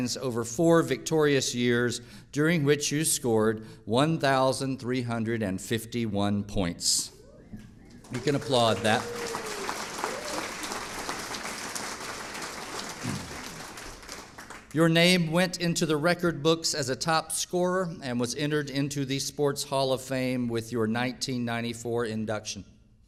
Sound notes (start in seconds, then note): 9.5 audience applauding